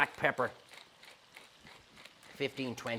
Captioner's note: grinder crackles